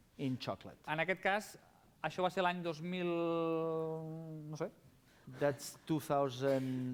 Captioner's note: non-english speech